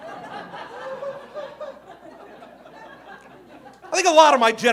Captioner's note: audience laughing